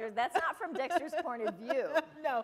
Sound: laughter

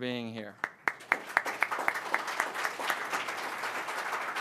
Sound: audience applauds

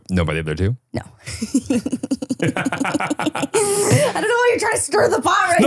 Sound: giggling

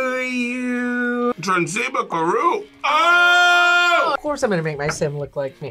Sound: speaks Simlish

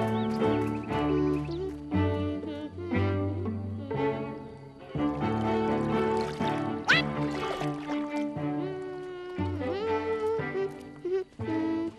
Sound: humming

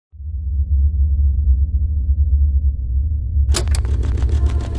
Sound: white noise; sound of cassette starting

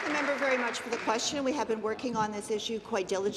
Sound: applause

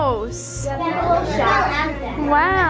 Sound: chattering

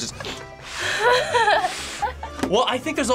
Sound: both laugh

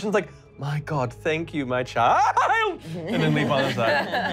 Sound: yelping

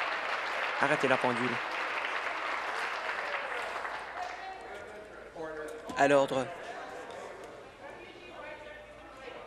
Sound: applause

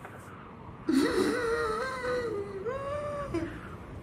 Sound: gasps

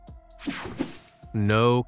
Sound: screen whooshing

